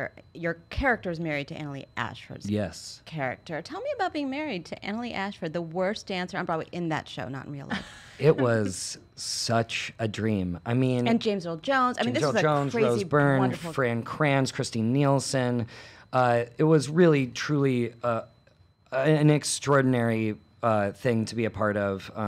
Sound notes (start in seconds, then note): 7.6 laughs